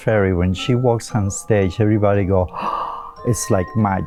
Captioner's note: gasps